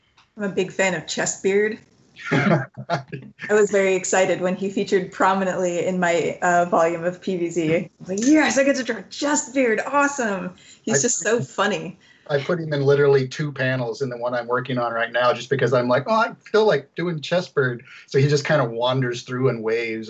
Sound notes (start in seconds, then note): 2.2 laughs